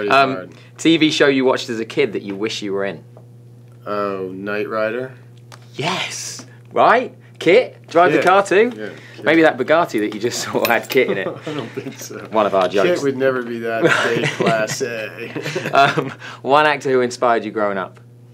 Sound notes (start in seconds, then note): 11.0 laughs; 13.8 laughs